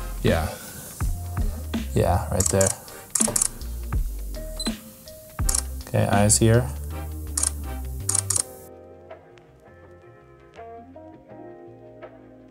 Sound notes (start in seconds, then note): 3.1 camera clicks; 5.4 camera beeps; 9.4 soft jazzy music